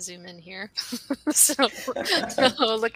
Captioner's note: laughing